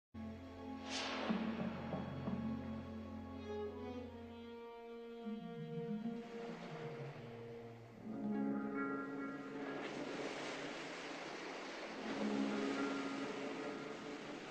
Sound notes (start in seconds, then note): 0.3 suspenseful orchestral music; 9.8 waves lapping